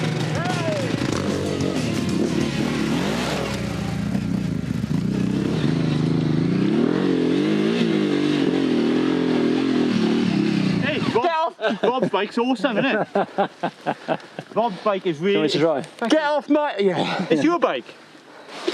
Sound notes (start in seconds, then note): 2.2 engine heavily roars